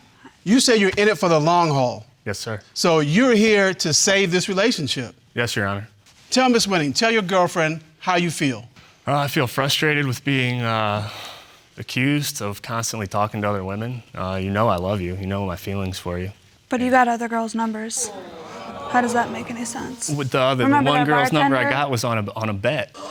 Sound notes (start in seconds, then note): 8.9 sighs; 17.9 audience exclaims